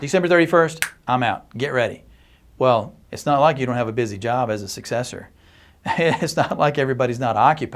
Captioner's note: chuckles